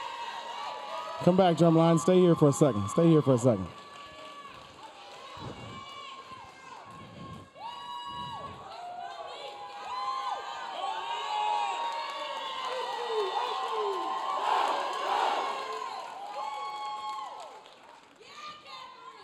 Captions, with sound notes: Come back, drum line. Stay here for a second. (audience cheering) (audience cheering)